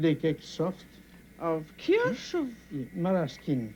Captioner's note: speaking french